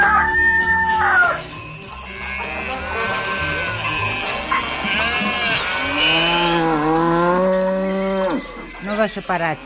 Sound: bleating of sheep, mooing of a cow

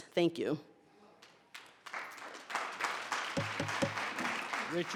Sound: audience clapping

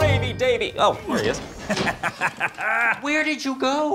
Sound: laughing

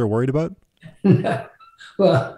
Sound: laughing

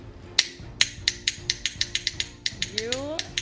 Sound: clicking sound

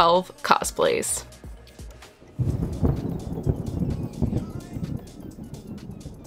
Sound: music and thunder

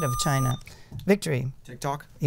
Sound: buzzer

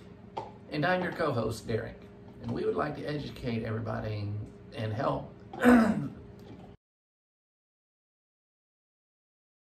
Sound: clears Throat Due to VNS Therapy sending Therapy

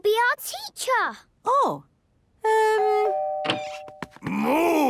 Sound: doorbell ringing

